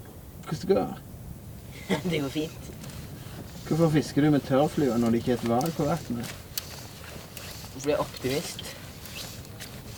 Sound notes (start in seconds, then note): 2.0 laughing